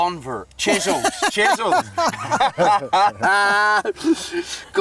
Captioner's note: all laughing